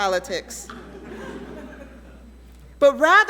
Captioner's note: audience laughing